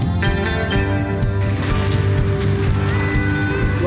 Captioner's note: water splashing